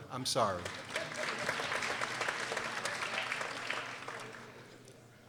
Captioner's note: people applauding